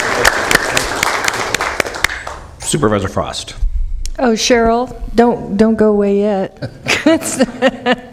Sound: applause

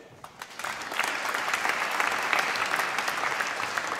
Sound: applause

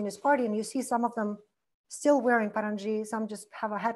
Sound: foreign language

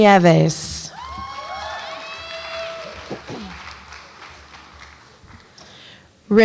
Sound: audience applauds and cheers

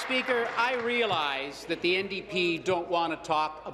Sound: applause

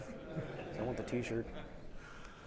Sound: audience chuckling

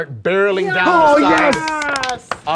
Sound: cheering

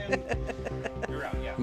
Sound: laughing

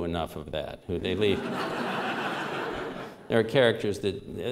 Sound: laughter

